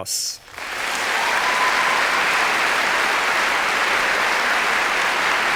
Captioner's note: applause